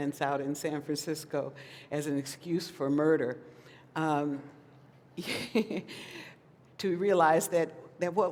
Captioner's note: laughs